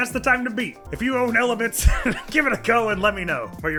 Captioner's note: chortles